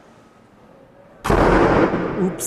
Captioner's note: main door slams